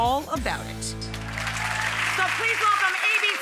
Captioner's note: audience applauds